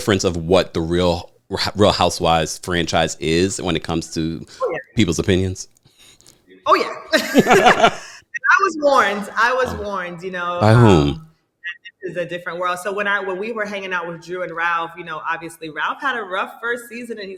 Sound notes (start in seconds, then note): 7.1 both laughing